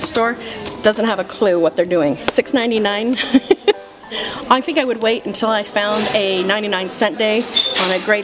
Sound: laughs

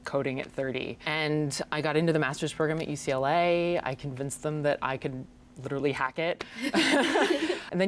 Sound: laughs

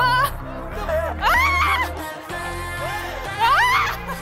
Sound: laughing; screaming; screaming

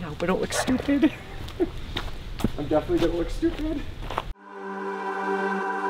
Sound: scoffs; upbeat music

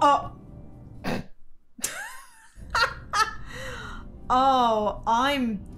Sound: laughing

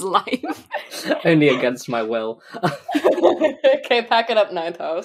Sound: laughing; laughs

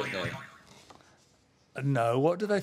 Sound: boing

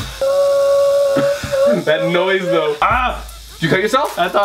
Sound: high pitched whimpering

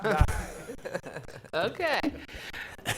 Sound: laughs

